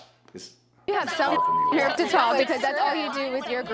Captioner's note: beep